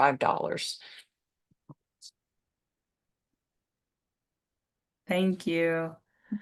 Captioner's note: silence